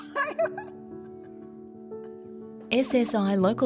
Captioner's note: laughter